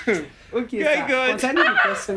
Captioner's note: laughing